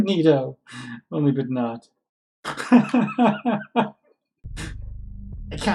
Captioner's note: laughs